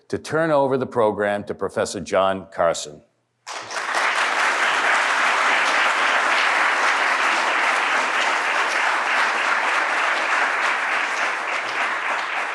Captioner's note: applause